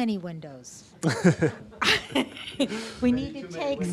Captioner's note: audience laughing